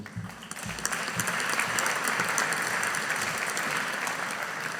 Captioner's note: audience applauding